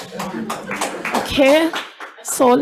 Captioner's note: audience applauds